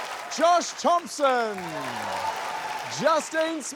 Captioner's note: applause